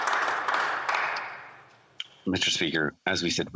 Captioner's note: some Applause